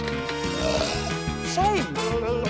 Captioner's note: belches; blubbers